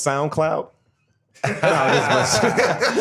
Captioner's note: laughter